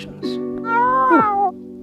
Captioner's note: cat meowing